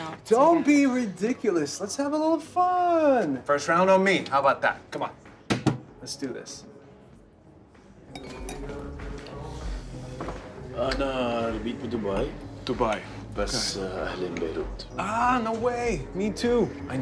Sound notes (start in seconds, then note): 8.3 sensual music; 10.8 speaking Arabic